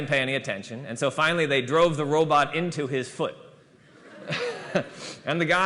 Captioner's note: laughter